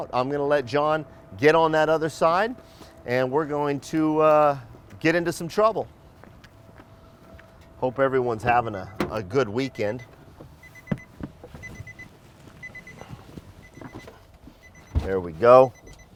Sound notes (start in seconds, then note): 10.1 van beeping